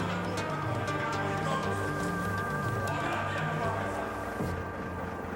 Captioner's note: man speaking foreign language